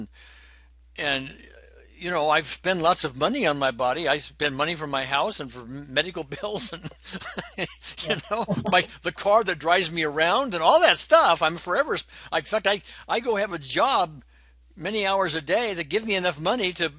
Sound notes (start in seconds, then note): 7.8 laughs